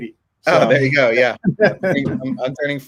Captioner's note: laughing